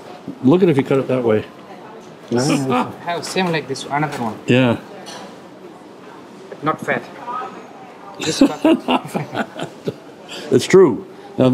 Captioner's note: laughs